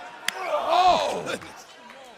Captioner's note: crowd cheering